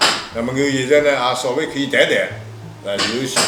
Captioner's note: wu Chinese; wu Chinese